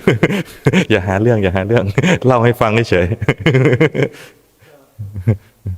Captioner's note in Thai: เสียงหัวเราะ